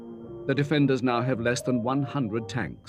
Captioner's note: none